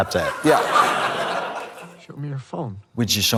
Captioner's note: audience laughs